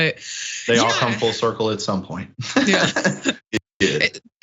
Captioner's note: laugh; laugh